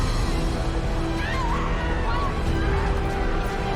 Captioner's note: crying and screaming